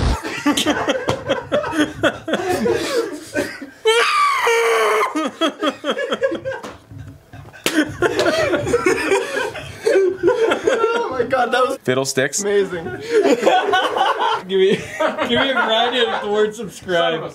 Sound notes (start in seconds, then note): 0.1 laughter; 3.9 suppressed scream; 5.3 more laughter; 12.9 even more laughter